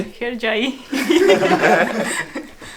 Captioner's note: laughing sounds